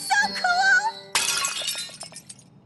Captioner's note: smash